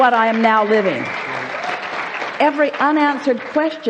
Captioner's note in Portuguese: Aplausos